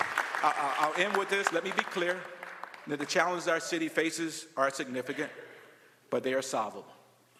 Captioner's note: applause